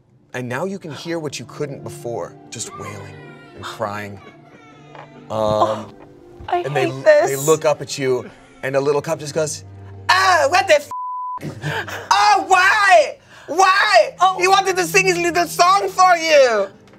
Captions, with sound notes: And now you can hear what you couldn't before, just wailing and crying. - I hate this. - And they look up at you, and a little cup just goes, "Ah, what the (beep) "Oh, why? Why? "He wanted to sing his little song for you!